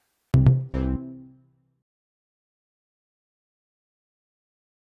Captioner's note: electronic bass beeps